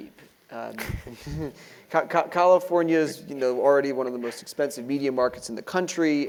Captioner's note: laugh